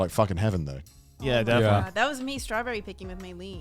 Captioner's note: men laugh